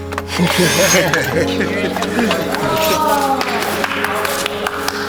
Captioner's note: both laughs; hand claps